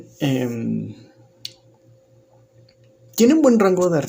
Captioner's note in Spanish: Silencio